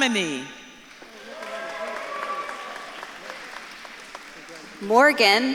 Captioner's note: audience claps and cheers